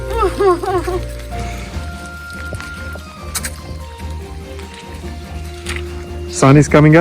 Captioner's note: laughs; squishy footsteps